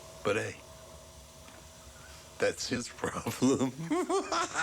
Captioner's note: laughs